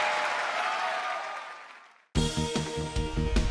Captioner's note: applause